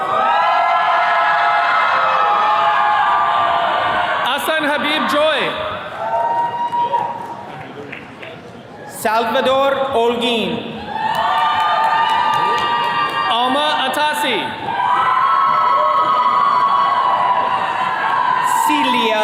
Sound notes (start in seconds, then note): 0.0 attendees cheering; 10.7 attendees cheering